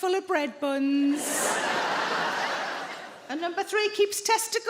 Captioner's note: audience laughing